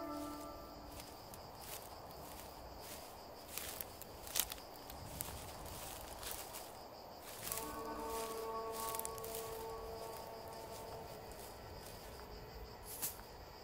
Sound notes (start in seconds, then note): 4.1 wind blowing